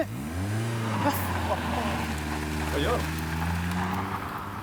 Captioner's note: screaming tires